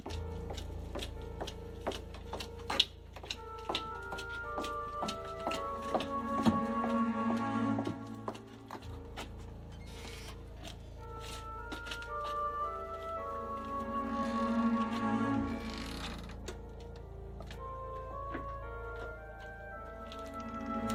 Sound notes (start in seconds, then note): 0.1 tense, eerie music continues; 9.7 gate creaks